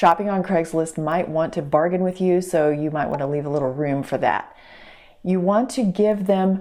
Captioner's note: pop